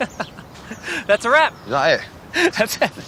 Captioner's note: laughing